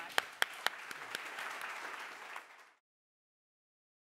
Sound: applauding

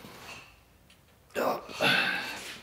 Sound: he groans

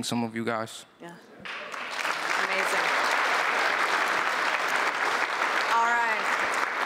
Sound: applause

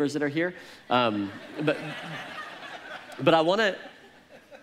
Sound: congregation laughs

